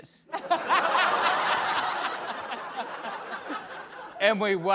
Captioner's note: laughter